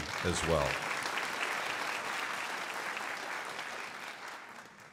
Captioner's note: crowd applauding